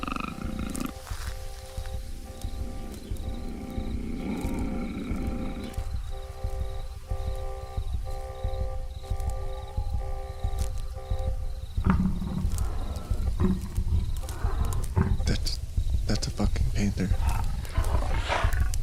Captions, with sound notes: (animal growling) (suspenseful music) (heart beating) (animal growling) That's, that's a fucking panther.